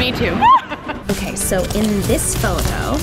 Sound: both laughing

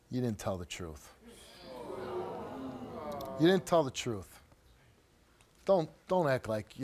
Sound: audience whines

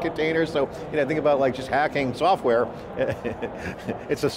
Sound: laughs

